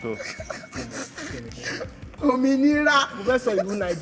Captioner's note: laughs